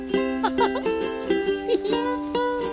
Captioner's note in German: lacht